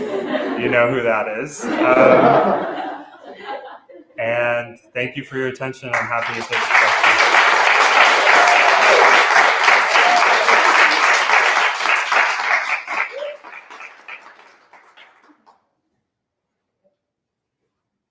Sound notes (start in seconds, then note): 7.3 applause